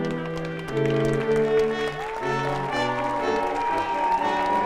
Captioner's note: audience applauding